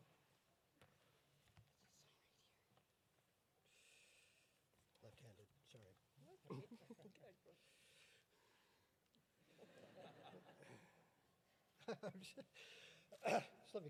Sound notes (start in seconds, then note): 9.6 audience laughing; 11.9 laughs